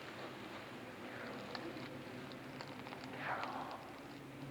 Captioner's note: whispering